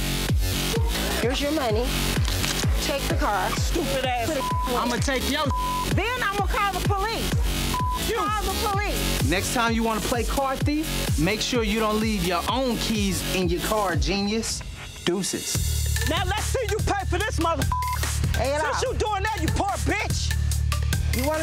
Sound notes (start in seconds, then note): 0.1 upbeat music; 4.2 beep; 7.6 beep; 17.6 beep